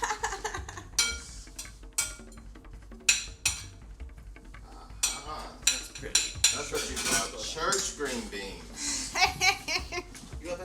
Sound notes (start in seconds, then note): 0.0 laughs; 5.0 plates clattering; 8.7 laughs